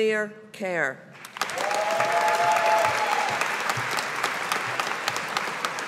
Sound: audience applauding

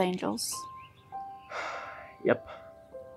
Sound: sigh

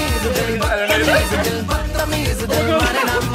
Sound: upbeat music; laughs

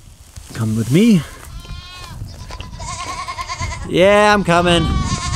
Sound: goats bleating

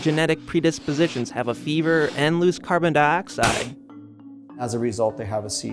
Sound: popping

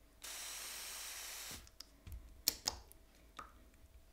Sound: sprayer fizzing

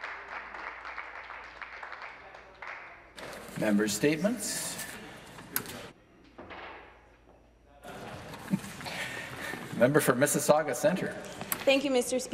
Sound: some Applause

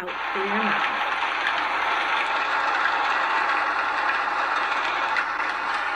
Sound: raindrops pattering

